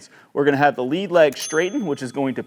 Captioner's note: bell dings